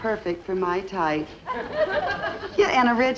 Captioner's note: audience laughs